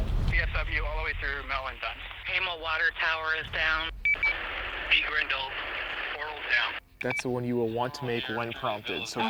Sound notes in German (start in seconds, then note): 0.3 Voiceover